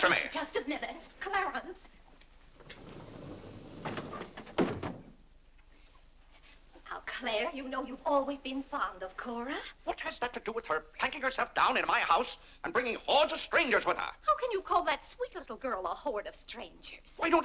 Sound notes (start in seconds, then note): 2.6 doors sliding shut